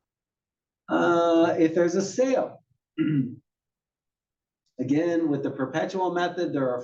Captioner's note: cough